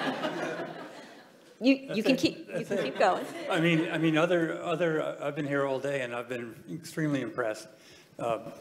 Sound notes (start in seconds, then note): 2.5 audience laughing